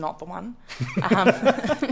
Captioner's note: laughter